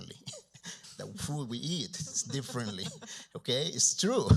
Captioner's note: chuckles